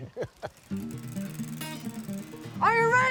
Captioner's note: laughs; bike spokes clicking; lively music